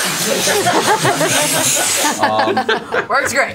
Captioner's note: laughter